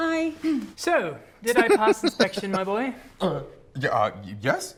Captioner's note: chuckling